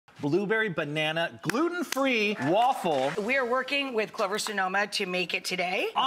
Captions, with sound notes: Blueberry banana, gluten free waffle. (crowd clapping) We are working with Clover Sonoma to make it today.